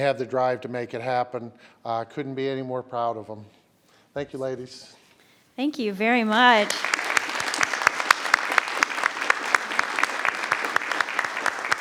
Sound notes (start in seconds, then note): 8.6 everyone applauds